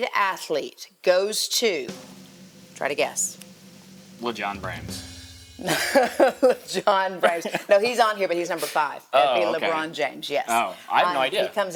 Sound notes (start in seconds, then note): 5.7 chuckles